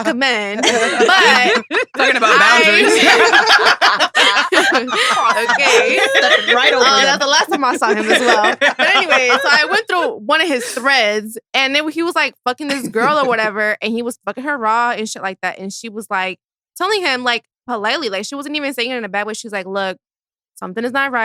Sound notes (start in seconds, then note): 0.2 all laughing; 3.0 laughs; 3.2 all laughing